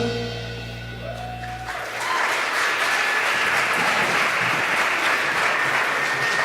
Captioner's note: applause